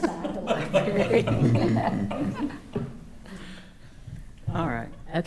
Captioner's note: attendees laughing